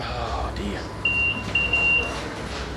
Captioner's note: beeping